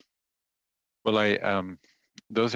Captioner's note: speaking French